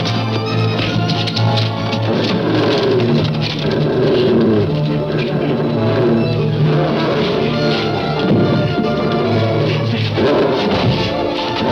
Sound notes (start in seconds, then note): 2.4 dog growling